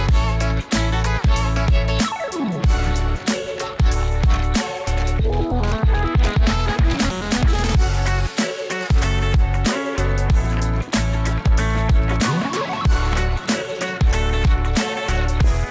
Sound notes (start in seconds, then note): 0.2 upbeat pop music; 3.5 robot clanking; 10.3 robot walking